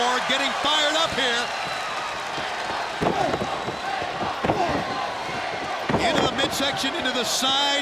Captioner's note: crowd cheering